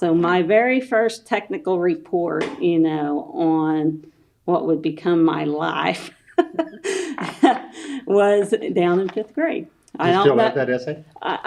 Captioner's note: laughs